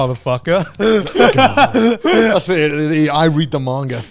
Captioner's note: laughing